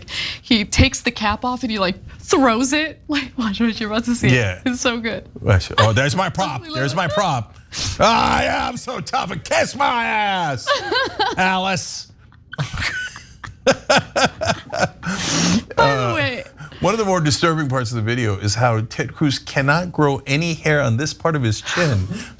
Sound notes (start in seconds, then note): 12.4 laugh